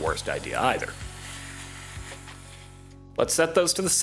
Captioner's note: vacuum Roars Calmly